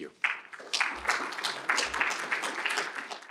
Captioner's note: applause